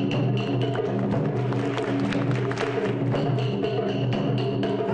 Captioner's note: audience claps in rhythm